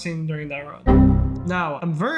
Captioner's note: windows error sound